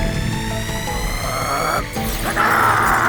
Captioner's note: growling